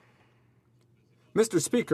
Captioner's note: speaking French